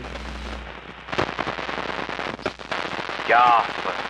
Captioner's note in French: Interférence radio